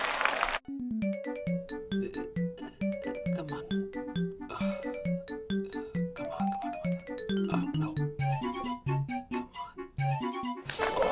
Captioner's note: frustration noises